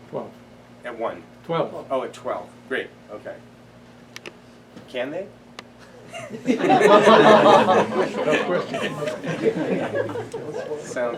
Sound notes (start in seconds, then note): 6.0 laughter